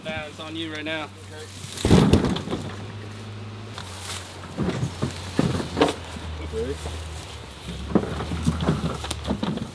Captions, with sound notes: It's on you right now. (hollow bang) - Okay